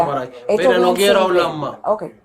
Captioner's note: officer speaking in Spanish; speaking in Spanish